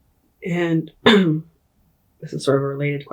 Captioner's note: clears throat